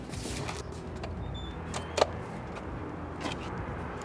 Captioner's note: door whooshes open